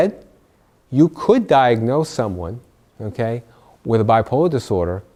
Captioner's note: laugh